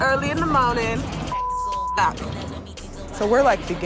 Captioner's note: beeps